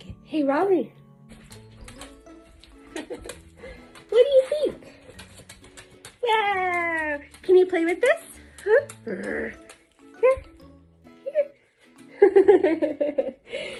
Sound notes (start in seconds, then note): 6.8 laughter